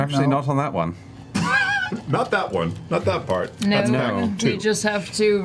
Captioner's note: laughs